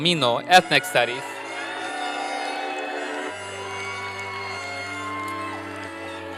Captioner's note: applause and cheering